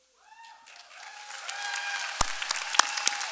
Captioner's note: applause